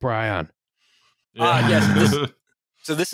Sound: laughter

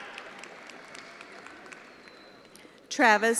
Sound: attendees applauding

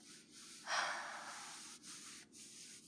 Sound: sighs

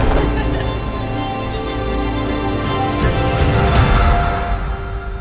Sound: sounds of laughter; bicycle Sounds

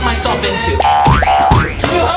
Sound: bounces loudly

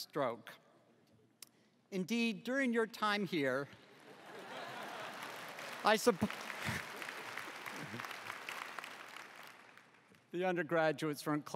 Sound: applause

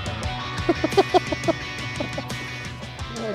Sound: laughs

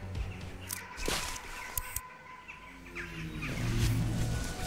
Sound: twig snaps; birds chirping

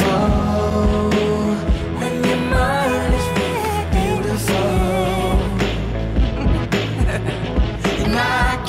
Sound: laugh

